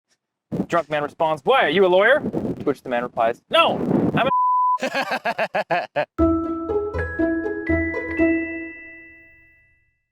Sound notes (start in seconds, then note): 4.2 beep; 4.8 laughs; 6.2 whimsical music